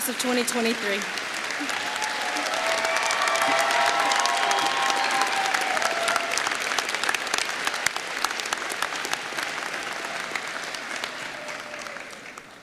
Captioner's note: applause